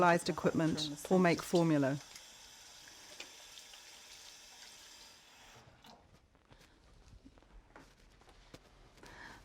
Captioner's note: sounds of running tap and tap being turned off; sound of running tap